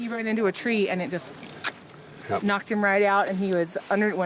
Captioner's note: tongue clicks